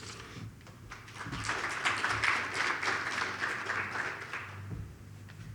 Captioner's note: audience applauds